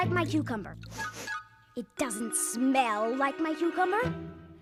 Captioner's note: sniffs